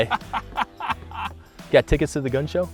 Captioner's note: laughter